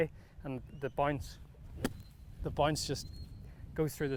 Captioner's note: golf club thwacking